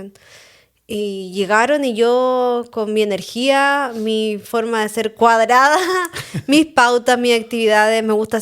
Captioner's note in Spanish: risas